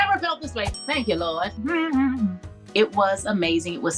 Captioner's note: bell dinging; hums